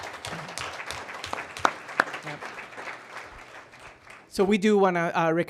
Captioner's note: applause